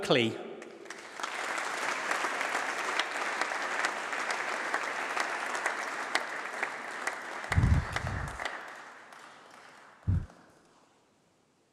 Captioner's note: applause